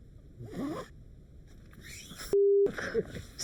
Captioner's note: tent zipping